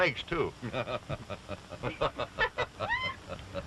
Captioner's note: all laughing